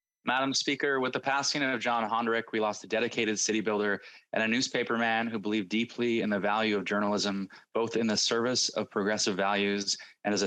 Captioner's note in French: voix de l'interprète